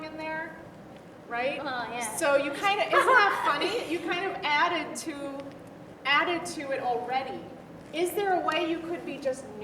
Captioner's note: laughs